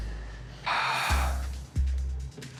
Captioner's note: sighs